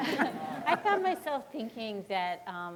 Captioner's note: audience laughing